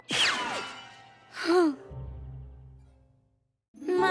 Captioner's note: sighs